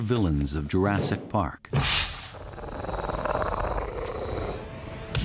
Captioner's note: dinosaur growling; roars